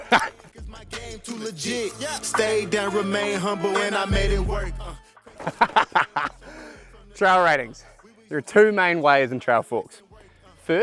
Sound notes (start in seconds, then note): 0.0 laughs; 1.4 upbeat music; 5.4 laughing